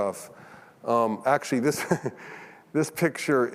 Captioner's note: chuckles